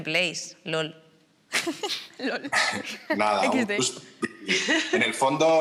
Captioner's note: laughs